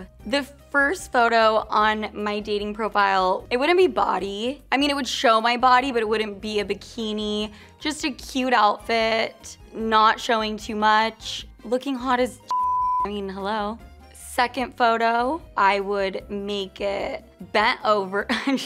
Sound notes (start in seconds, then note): 12.5 beeps